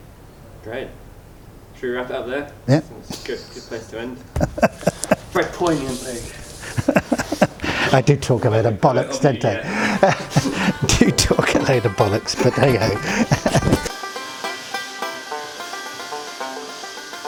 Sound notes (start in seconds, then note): 7.4 laughs; 13.6 laughs